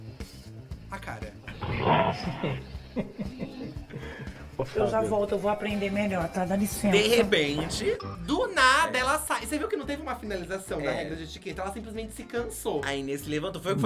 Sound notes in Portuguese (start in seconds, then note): 1.5 rugido; 2.8 Fábio ri